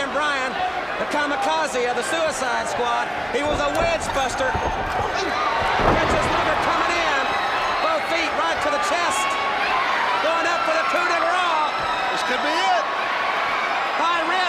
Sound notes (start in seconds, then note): 5.1 crowd cheering